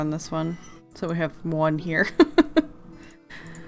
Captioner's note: laughs